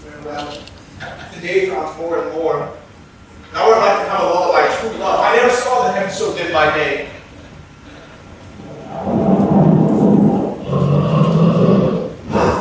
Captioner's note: bear growl; thunder